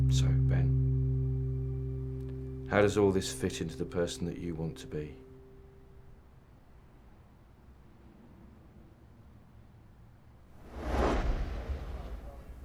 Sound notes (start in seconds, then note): 10.6 whoosh transition sound